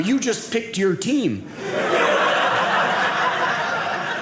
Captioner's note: audience laughing